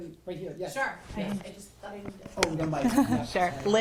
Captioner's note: faintly speaking